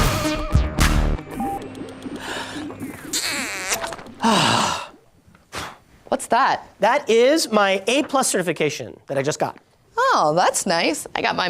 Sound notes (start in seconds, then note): 3.1 smooches; 4.1 sighs